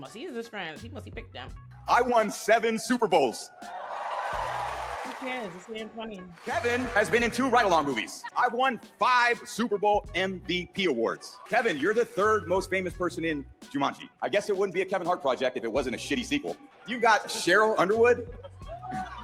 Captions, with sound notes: He is his friend. He must have picked them. I won seven Super Bowls. (crowd cheering) Who cares? It's me and funny. Kevin has been in two right along movies. I won five Super Bowl MVP awards. Kevin, you're the third most famous person in Jumanji. I guess it wouldn't be a Kevin Hart project if it wasn't a shitty sequel. You got Cheryl Underwood.